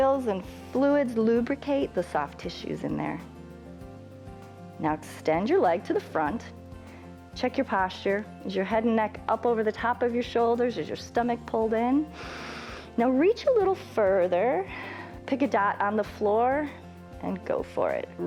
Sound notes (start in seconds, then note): 12.1 inhales